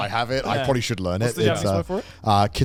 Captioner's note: men laugh